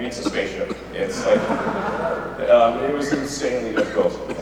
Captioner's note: audience laughs